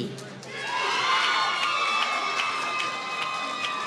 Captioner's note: applause